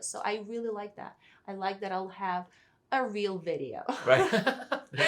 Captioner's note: both laugh